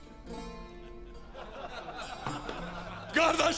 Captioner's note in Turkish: Gülme sesleri